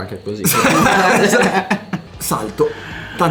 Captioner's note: laughters